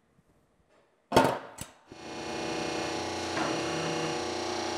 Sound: machine whirring

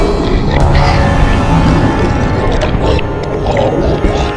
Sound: growling

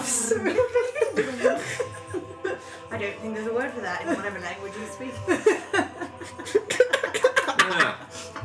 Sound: purring

